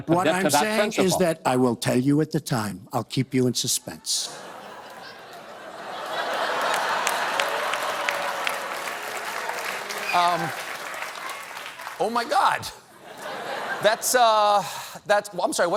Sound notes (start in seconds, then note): 4.2 laughter; 4.5 applause